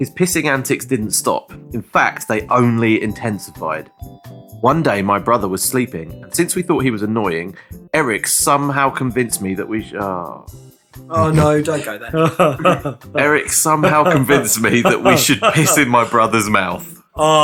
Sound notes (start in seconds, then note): 11.1 donkey chortle